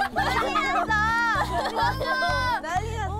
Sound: hehehe

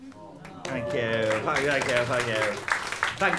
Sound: audience awws

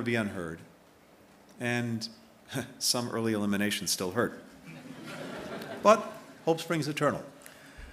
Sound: laughter

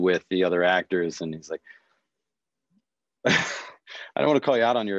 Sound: chuckles

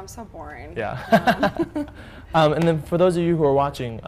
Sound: laughter

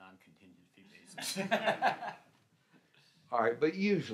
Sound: laughs

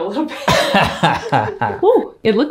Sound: laughs

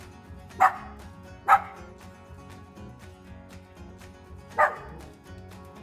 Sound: identified yapping

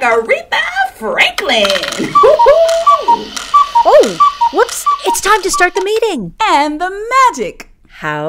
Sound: cuckoo clock

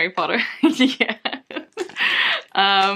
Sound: laughs

